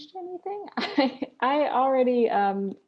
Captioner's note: chuckles